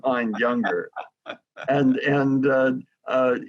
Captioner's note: laughs